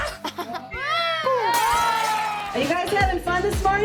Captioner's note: glass shatters